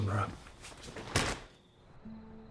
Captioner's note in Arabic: يُغلق الباب